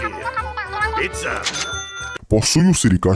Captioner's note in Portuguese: The cash register rings